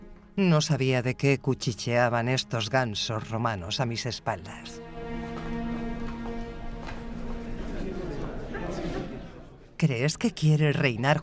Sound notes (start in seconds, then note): 7.0 guests chattering